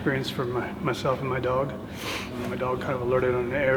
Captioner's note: sniffing